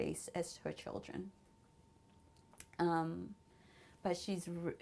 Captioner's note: pauses for 3 seconds